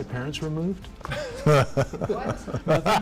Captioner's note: chuckles